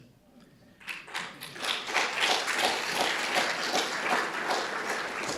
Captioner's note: audience applauding